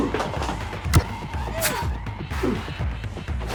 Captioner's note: ax thuds; Mr. Black grunts; blade swishing